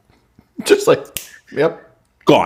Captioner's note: snap